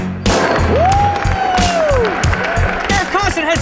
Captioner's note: intense music; cheering